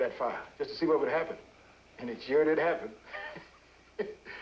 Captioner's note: laughs